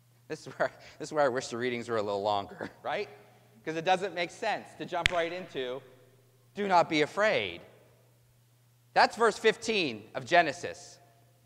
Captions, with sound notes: This is where I - This is where I wish the readings were a little longer, right? Because it doesn't make sense to jump right into [slaps hands].... ..."Do not be afraid." That's verse fifteen of Genesis.